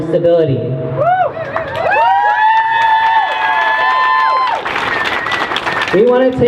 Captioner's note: crowd cheers